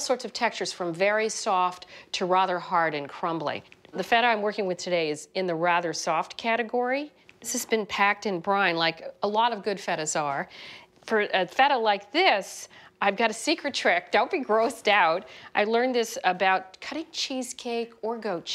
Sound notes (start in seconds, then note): none